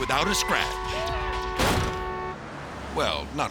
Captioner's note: horn honking; jaywalker thuds